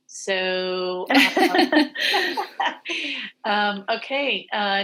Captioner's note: laughing